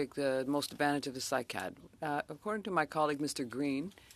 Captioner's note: speaking French